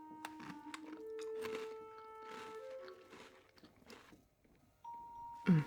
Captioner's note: cookie crunching